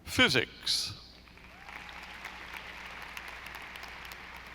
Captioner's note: audience applauding